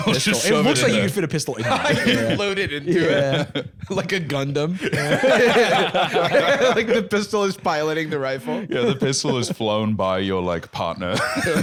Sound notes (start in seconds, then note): 4.7 all laughing; 4.7 laughs